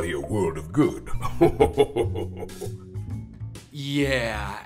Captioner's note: chuckles